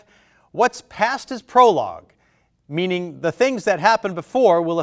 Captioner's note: none